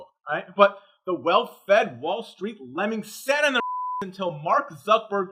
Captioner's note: beep